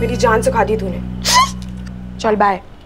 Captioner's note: Giggling